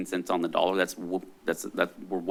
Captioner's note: stuttering